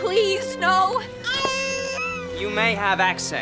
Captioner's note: baby crying